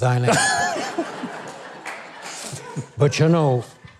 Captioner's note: crowd laughing